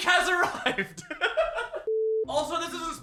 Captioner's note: giggles